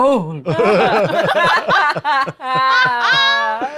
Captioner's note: cast laughs